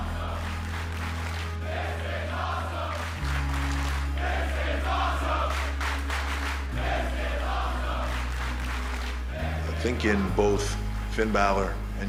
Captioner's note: fans chanting